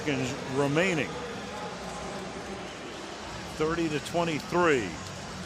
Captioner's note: pa announcement